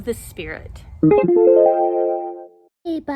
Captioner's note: chimes